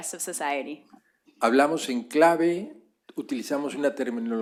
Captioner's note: spanish